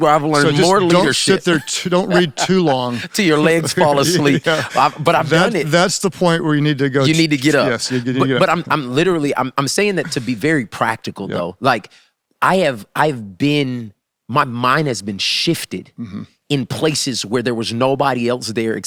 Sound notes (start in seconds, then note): 0.2 laughs